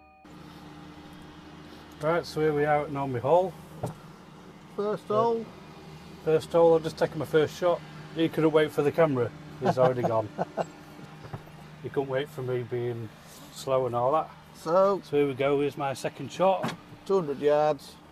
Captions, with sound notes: right so here we are at Normanby Hall first hole first hole i've just taken my first shot and he couldn't wait for the camera and has already gone (chuckles) he couldn't wait for me being slow and all that so here we go here's my second shot 200 yard